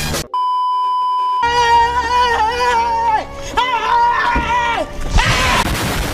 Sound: screaming

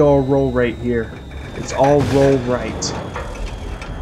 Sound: rattling

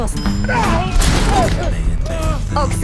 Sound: screams, groans

